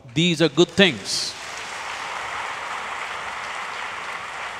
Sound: applause

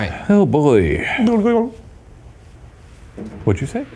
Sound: mumbles

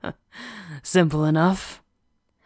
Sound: the werewolf laughs confidently

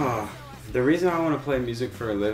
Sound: sighs

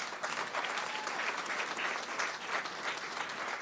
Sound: applause

